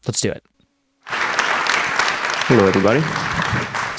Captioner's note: audience applauding